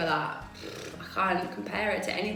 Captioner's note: exhales heavily